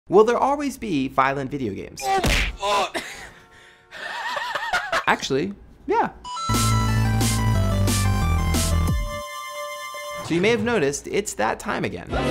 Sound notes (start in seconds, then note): 2.2 smack; 2.5 grunting; 4.0 laughing